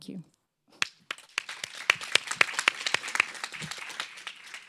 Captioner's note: audience applauds